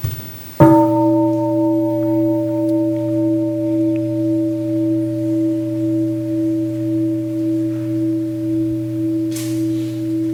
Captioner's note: gong